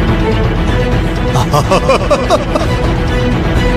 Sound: laugh

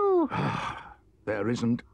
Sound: Badger sighs

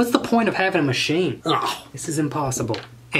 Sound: groans

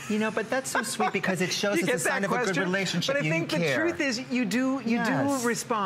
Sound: laughter

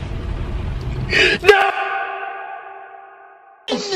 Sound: inhale

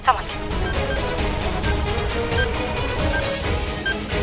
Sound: beeping

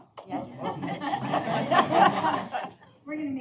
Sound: laughter

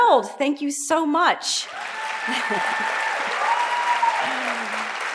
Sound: audience applauds

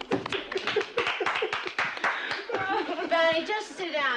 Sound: people laugh; people clap

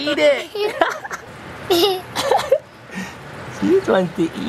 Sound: laughter

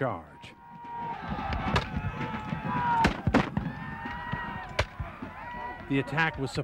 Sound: yelling and Gunfire

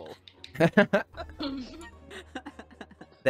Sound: group laughing

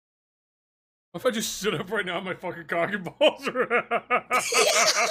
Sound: laughs

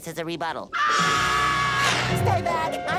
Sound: screaming

